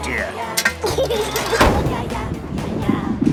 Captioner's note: giggles